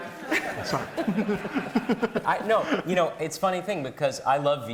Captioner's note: all laughing